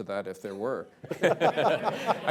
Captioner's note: laughter